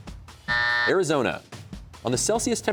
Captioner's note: buzzer sounds